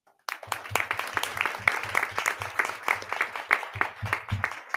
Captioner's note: audience clapping